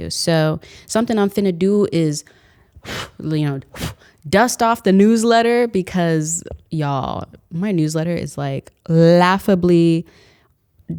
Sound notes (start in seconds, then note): 2.3 exhales